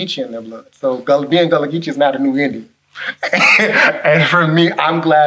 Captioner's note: laughs